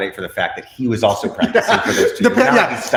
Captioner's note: laughs